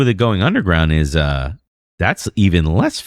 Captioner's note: uh